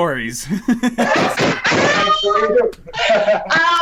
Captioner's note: laughs